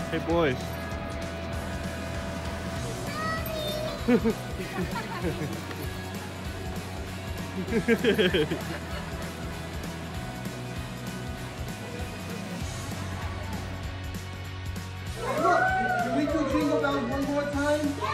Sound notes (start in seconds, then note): 3.9 cameraperson laughs; 4.0 soldier laughs; 7.4 group laughs; 15.2 bystander whooping